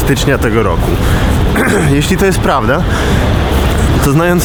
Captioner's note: clears throat